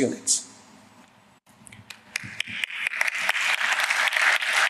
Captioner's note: applause